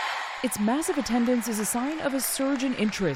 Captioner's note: cheering